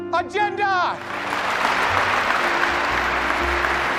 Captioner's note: applause